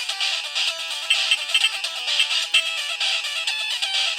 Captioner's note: repetitive electronic clicks